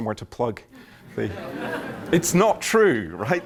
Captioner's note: laughter